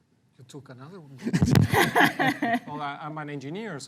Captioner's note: laughs